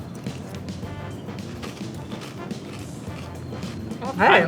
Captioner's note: cornflakes crunching